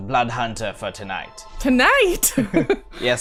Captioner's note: laughs